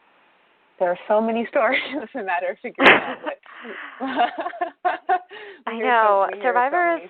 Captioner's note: laughter